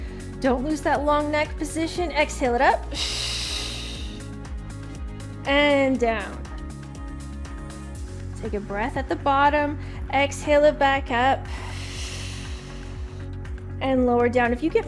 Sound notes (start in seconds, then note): 2.9 exhales sharply; 11.5 exhales sharply